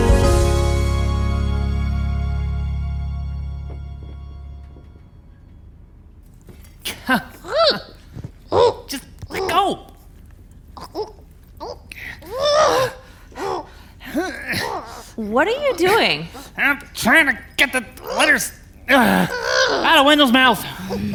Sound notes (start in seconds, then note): 7.3 Wendell squawking; 8.5 grunting